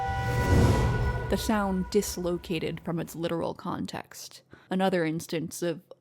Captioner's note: elevator ding, music sting